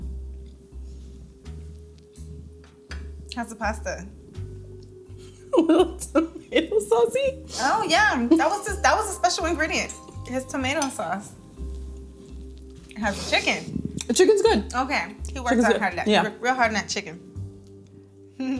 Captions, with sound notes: How's the pasta? - (laughs) Well, it's a little tomato saucy. - Oh yeah. That was a special ingredient. His tomato sauce. How's the chicken? - The chicken's good. - Okay. He worked out hard. - Yeah. - Real hard on that chicken.